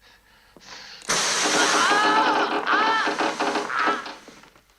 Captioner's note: screams